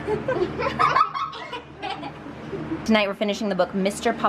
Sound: kids laughing

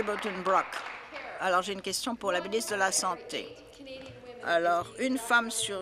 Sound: applause

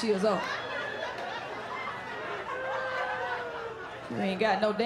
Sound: laughter

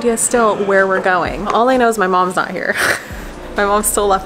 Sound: laughing

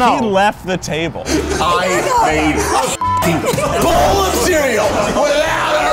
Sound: beep

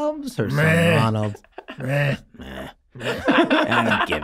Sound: Charlie and Glenn mimicking bleating

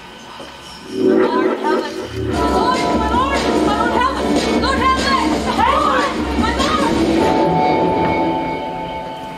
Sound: whispers, people crying "My lord Hamlet!"

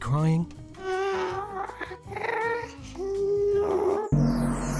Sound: Ghast sounds

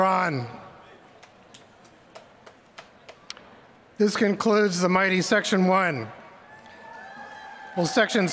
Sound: applause; applause

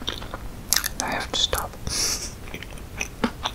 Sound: laughing

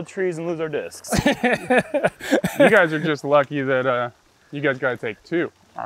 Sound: laughs

